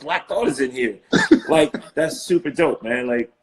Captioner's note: laughing